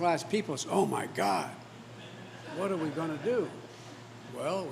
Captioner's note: laughter